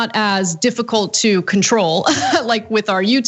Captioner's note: laugh